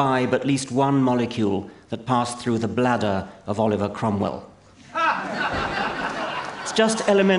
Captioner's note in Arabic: ضحك